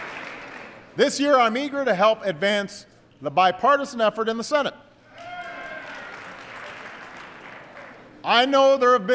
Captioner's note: applause; applause